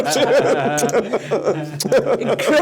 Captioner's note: all laugh